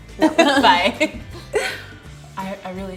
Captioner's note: laughing